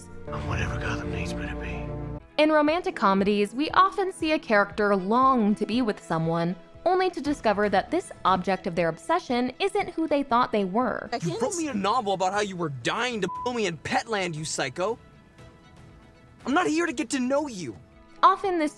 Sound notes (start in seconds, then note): 11.2 yelling